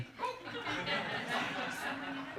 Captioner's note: audience exclaim, laugh